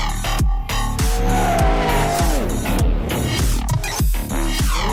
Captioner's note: tires squeal